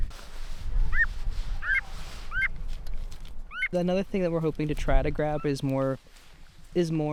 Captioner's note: bird calls